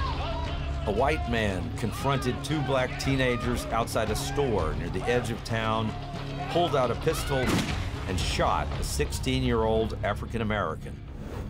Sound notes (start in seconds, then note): 7.5 gun fires